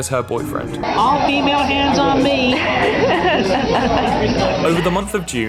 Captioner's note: laughter